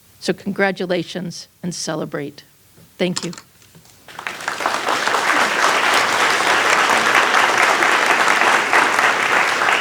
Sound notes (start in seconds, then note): 4.0 applause